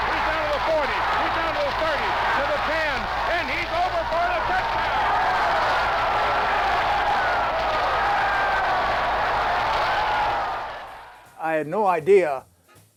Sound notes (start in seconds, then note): 8.9 cheers